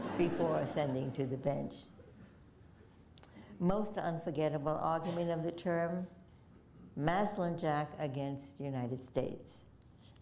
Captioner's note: laughter